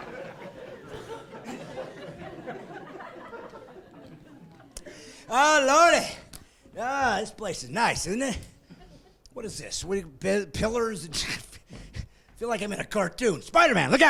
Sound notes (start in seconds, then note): 0.0 laughing